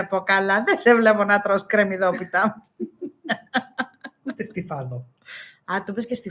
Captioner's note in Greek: γέλια